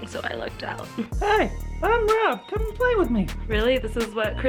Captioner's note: higher voice